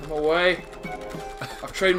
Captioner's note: NinjaFish laughs